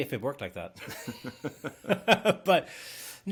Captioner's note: laughing